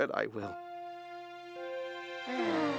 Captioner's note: both sighing